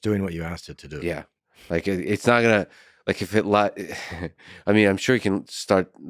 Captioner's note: laughs